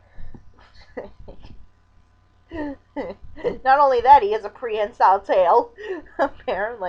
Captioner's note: chuckling